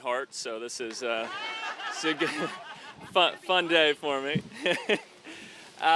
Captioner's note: audience laughing